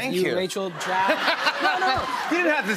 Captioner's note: laughter